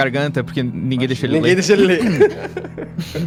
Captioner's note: laughs